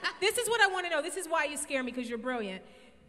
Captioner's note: none